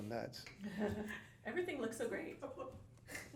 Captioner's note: laughing